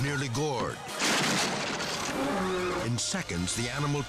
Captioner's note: wood splintering